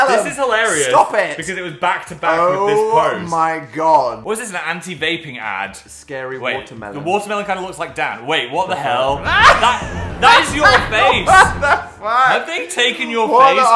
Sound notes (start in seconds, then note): 9.3 Dan laughing